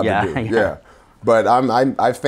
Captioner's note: laughing